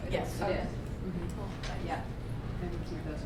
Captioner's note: voiceover